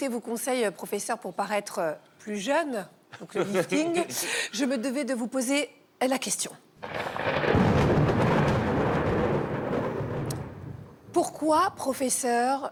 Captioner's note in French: rires